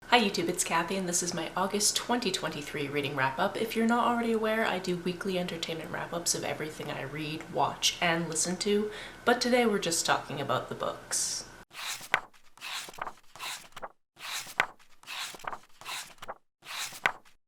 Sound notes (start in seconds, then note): 11.7 pages turning